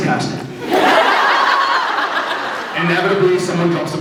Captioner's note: laughs